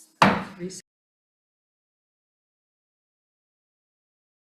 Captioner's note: mallet thudding